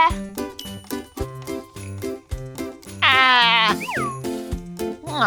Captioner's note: potion spraying